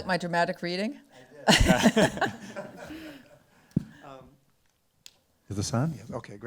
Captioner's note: laughs